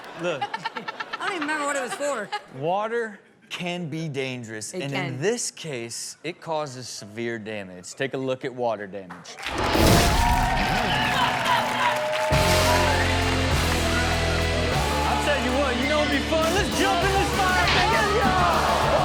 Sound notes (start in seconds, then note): 0.1 cast laughs; 9.5 audience cheers; 9.5 electricity buzzes; 12.3 heavy punk music